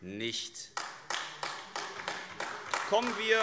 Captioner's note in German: Beifall AfD